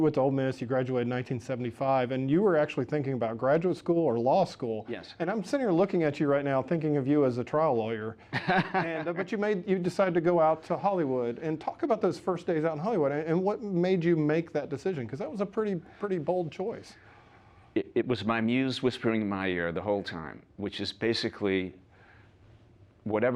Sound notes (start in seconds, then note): 8.3 laughs